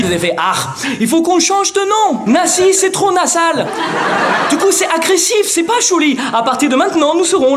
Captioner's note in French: Accent allemand